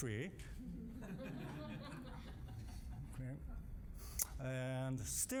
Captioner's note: audience laughing